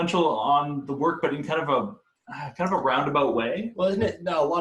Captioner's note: sighs